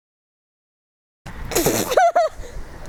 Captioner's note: laughter